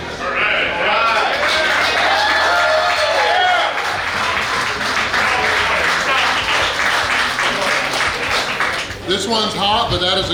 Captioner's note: cheering & Clapping